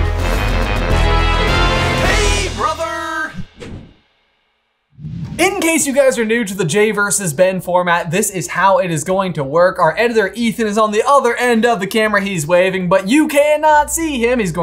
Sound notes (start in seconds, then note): 2.2 voiceover